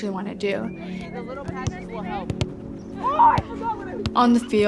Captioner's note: sounds of a soccerball being kicked